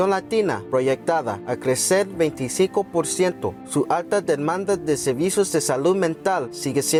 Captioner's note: speaking Spanish